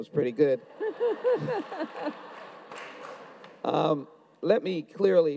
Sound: audience laughs; audience claps

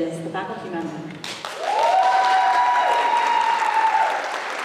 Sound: applause

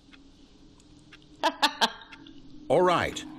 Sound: laughter

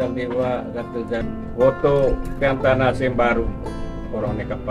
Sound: foreign language

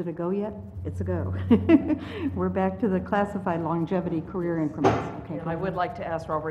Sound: laugh

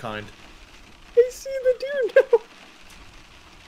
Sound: laughs

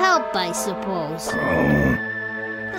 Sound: groans

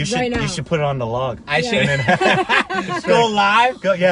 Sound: laughing

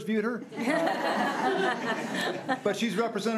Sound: crowd giggling

